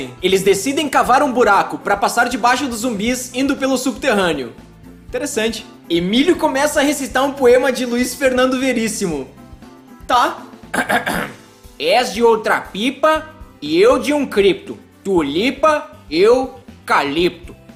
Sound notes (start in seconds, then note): 10.7 ahem